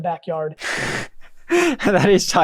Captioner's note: laughs